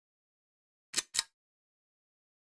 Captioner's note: click